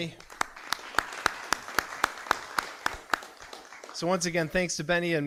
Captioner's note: audience applauding